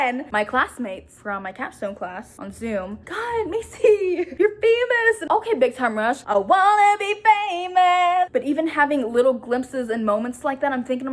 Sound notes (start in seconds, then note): none